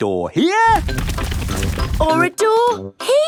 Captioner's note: drilling